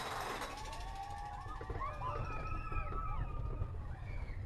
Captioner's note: people screaming